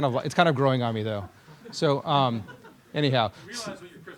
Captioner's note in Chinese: 学生大笑